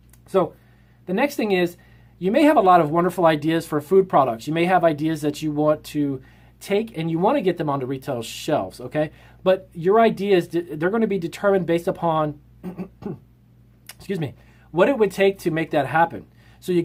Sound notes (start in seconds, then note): 12.6 clears throat